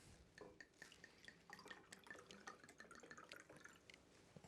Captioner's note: wine sloshing